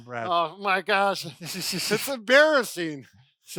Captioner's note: laughter